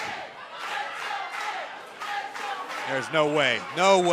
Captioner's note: crowd cheering